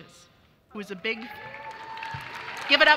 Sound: audience cheering

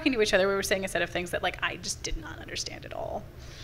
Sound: none

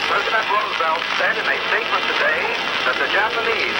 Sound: voiceover

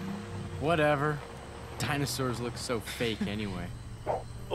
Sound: chuckles

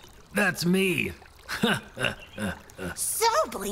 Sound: laughs

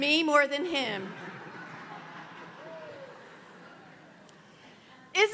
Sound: congregation laughs loudly

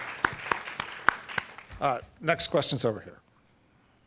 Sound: applause

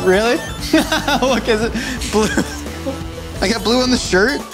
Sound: laughing

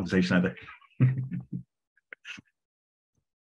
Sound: laughs

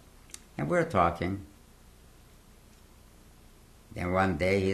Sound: pauses for 3 seconds

